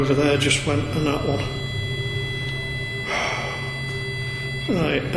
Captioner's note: sustained beeping; sighing heavily